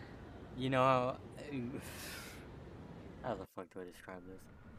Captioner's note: stutter